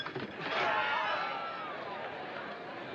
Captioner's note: crowd Gasps